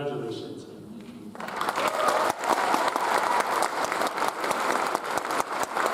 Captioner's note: audience applauds and cheers